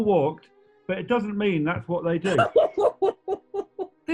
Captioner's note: laughing